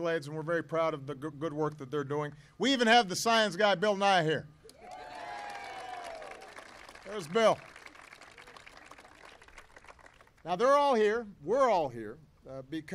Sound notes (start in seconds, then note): 6.8 applause